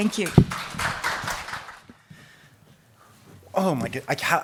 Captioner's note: audience clapping